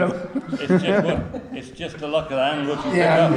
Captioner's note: laughs